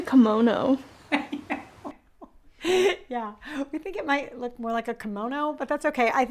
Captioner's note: laughs